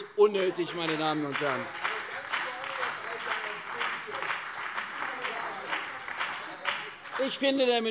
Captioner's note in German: Beifall bei der CDU und dem BÜNDNIS 90/DIE GRÜNEN